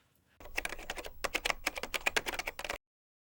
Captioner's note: typing